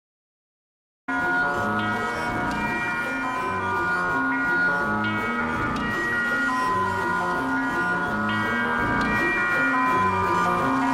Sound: sound of whining chime

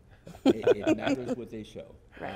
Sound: laughter

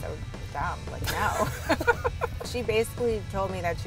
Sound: laughs

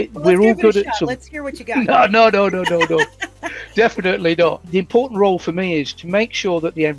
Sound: both laugh

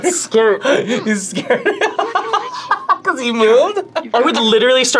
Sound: laughs

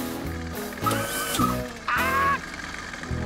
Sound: whirring

